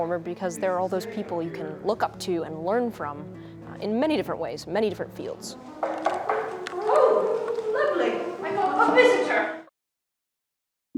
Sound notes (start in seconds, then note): 5.8 knuckles thumping